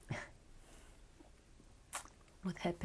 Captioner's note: laughs